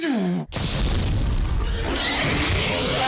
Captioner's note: basilisk scream